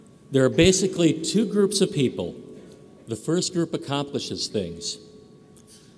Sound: none

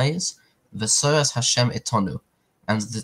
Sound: Hebrew

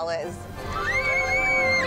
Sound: screaming

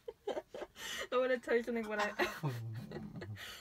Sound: funny noise

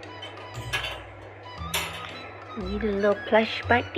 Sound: crate banging

